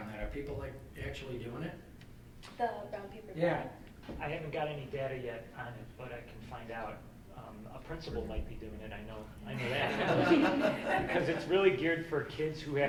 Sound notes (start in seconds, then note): 9.5 all laughing